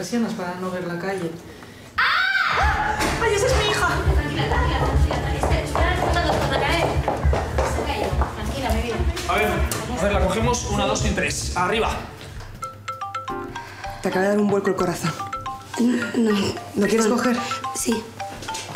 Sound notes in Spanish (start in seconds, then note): 12.6 tono de llamada